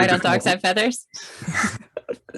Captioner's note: laughs